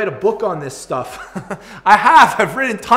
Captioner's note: chuckles